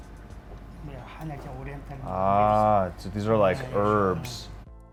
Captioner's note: speaking In Korean